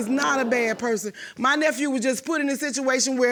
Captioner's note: audience gasps